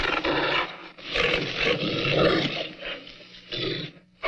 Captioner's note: growling